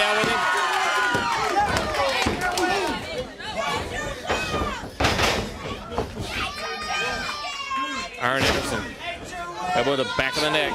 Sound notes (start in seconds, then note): 1.6 crowd cheering